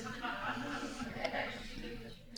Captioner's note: audience laughing